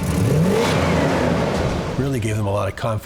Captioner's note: engine revs